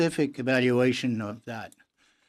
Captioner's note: speaking in French